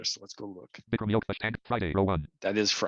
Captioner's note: rapid screen reader audio output